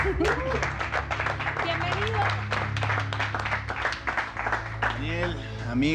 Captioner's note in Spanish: aplausos